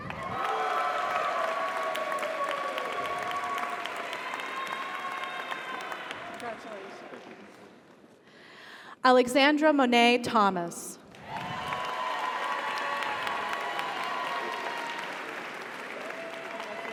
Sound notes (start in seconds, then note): 0.0 audience cheers; 0.0 audience applauds; 11.1 audience applauds; 11.2 audience cheers